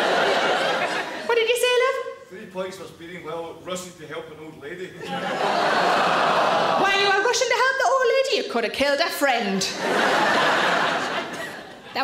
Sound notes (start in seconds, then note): 0.0 audience laughs; 5.0 audience laughs; 5.4 people groan; 9.7 audience laughs